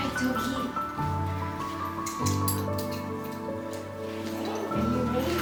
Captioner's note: gentle music; harness clanking